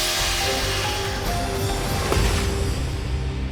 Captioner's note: thump